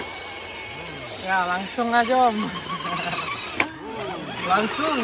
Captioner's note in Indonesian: Tertawa